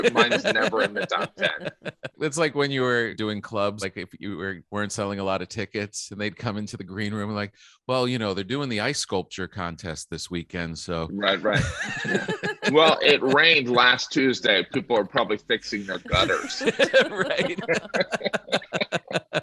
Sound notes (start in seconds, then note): 17.4 all laughing